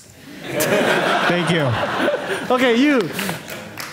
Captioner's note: audience laughing